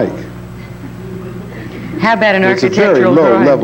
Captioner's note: audience laughing